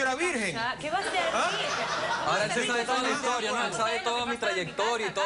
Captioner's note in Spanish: Risas